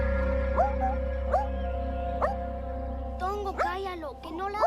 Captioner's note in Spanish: Ladridos